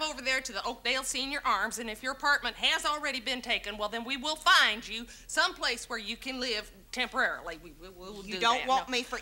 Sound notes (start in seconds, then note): 7.2 stammering